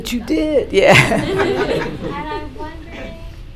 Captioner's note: laughter